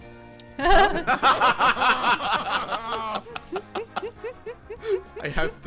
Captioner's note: everyone laughing